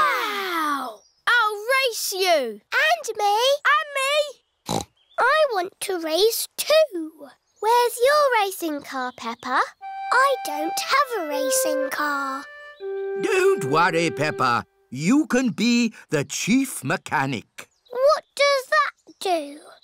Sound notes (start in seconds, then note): 4.7 snorts